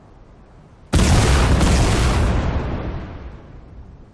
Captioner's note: explosions